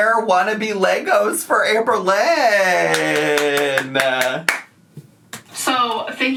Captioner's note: applauds